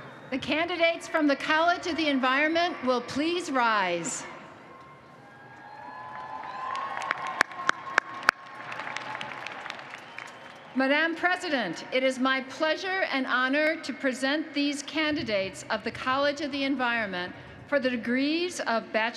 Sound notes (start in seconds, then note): 6.0 applause